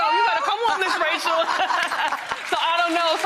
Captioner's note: laughing